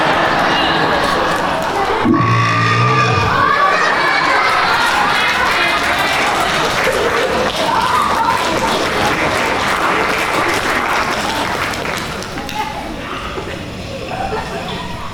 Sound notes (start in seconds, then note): 2.0 loud belch; 4.0 applause